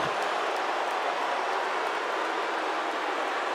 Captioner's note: crowd boos